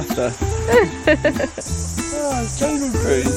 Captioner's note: laughing